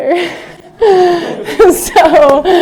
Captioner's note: laughter